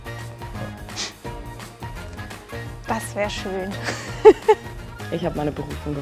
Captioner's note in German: lacht